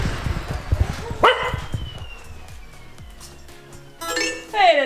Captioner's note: Logan barks